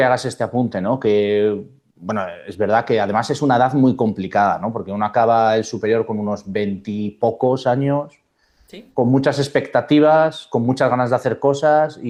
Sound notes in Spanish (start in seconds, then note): none